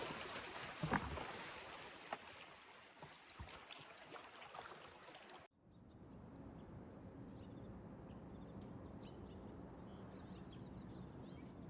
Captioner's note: nature sounds